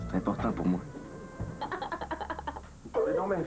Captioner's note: Rire